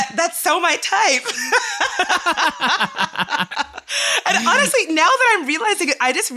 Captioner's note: laughter